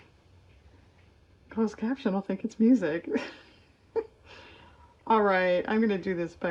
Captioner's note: laughs